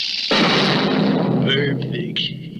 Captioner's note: crash!